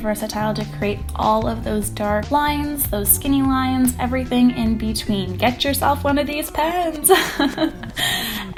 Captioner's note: laughing